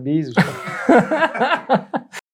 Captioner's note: laughs